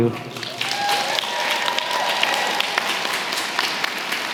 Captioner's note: applause